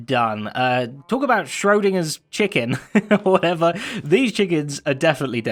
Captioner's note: chuckles